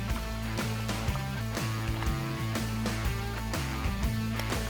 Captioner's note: water splashing